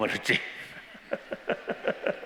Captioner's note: laughter